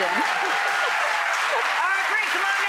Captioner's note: applause